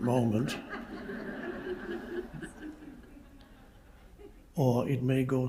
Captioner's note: audience laughing